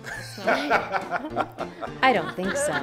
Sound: laughing

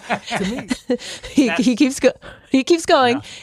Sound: laughs

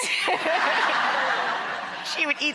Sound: laughter

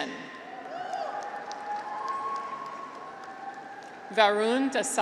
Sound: graduates cheer

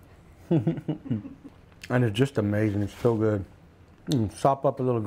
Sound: chuckles

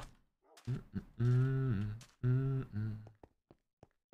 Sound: hums

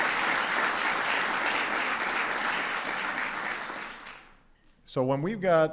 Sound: applause

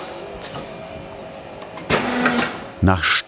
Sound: quiet hooting

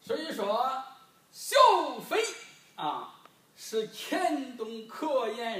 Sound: speaking foreign language

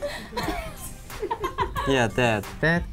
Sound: laughs

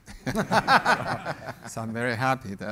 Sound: panel & audience laughs

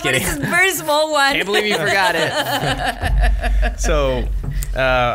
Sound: laughs

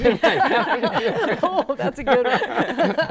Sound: laughing

